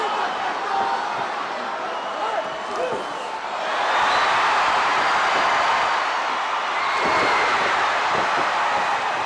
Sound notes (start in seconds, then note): 4.3 crowd cheers